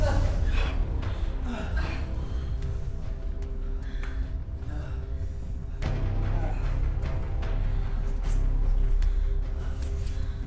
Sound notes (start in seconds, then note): 1.6 labored breathing; 6.3 suspenseful orchestral music